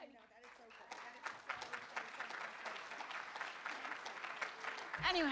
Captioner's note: room applauds